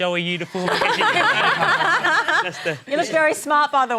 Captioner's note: laughter